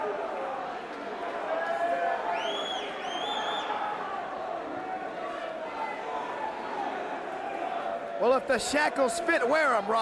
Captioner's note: crowd cheering